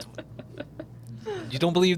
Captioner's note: laughing